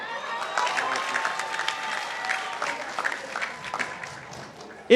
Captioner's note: participants applauding